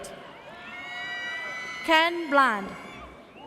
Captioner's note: audience cheers